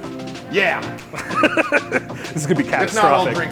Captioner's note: laughing